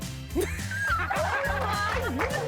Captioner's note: all laughing